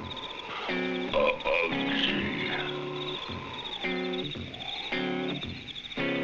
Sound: speaking in a foreign language

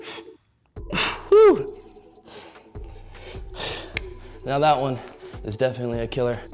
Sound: exhales deeply

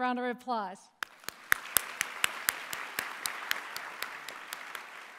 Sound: applause

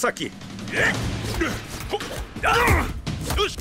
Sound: grunting

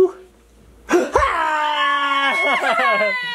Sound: all scream

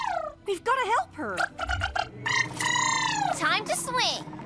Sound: trilling

